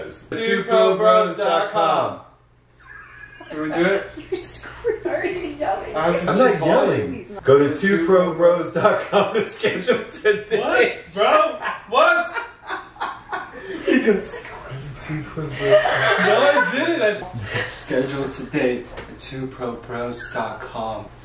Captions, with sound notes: TwoProBros.com [yelling] Did we do it? [laughter] Why are you screaming[Laughter] Why are you yelling? I'm not yelling go to twoprobros.com to schedule today [Laughter] What bro what?! [laughter] he goes *whisper* go to twobrobros.com NO I DIDNT! I said schedule today at twoprobros.com